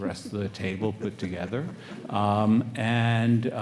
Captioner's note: panelists laugh